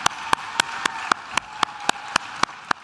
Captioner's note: claps